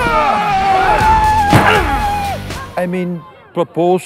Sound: yelling

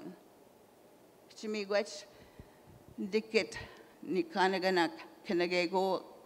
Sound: in Indigenous language

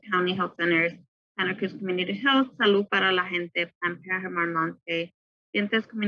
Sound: in Foreign language

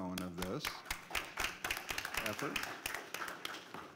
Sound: applause

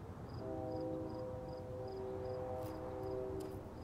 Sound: distant train horn blares

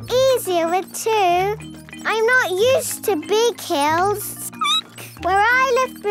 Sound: squeaking

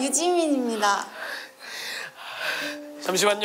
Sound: taking a deep breath

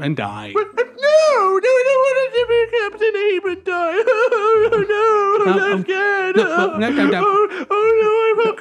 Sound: cries

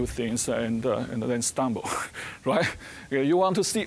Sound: chuckling

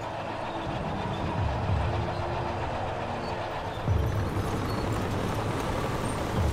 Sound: ominous instrumental music; tanks rumbling

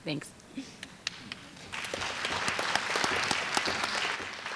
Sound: applause

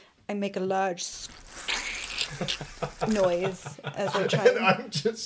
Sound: disgusting squelching

